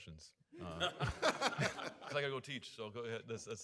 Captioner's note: audience laughing